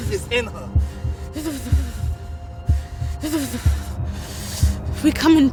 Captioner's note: person's teeth chattering